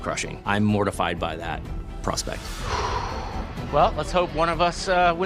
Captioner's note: sighs